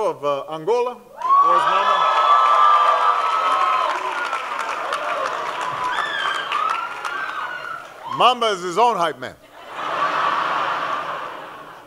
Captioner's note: laughter